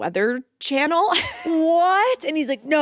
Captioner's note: Vic laughs